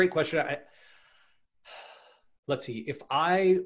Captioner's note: sighs